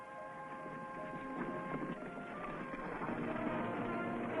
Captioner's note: horses galloping